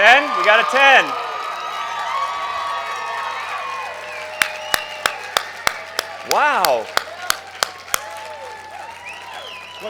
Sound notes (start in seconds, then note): 1.3 crowd cheers